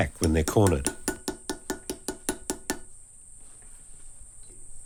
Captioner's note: tool pounding